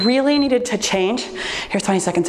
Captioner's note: timer beeps